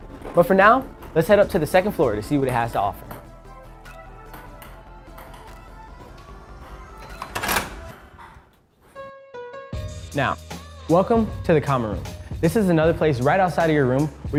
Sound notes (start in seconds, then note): 3.2 ping pong balls bouncing and music; 9.0 piano music